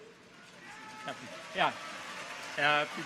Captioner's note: people laugh; clappers clacking